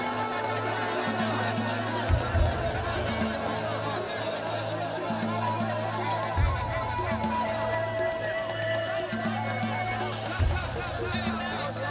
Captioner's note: coyote call